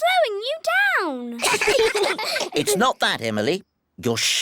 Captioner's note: all giggle